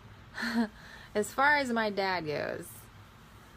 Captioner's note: giggles